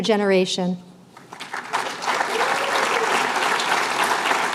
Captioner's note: applause